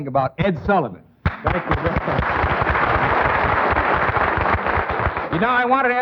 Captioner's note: audience clapping